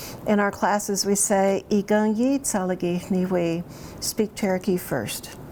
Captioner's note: speaks in Cherokee